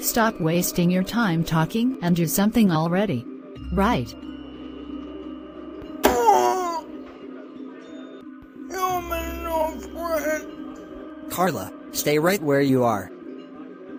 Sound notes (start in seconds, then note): 6.0 thunk; 8.7 zombie speak